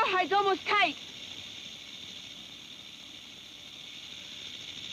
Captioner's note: snake rattles